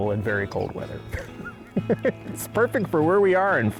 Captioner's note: laughing